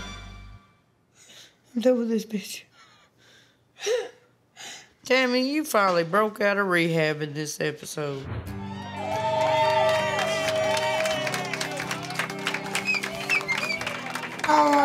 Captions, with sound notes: Tammy, you finally broke out of rehab in this episode. [CHEERING]